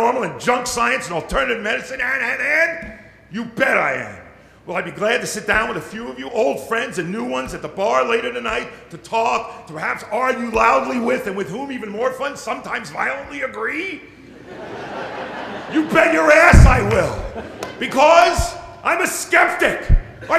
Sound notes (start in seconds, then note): 14.2 laughter